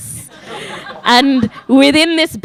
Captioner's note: audience laughing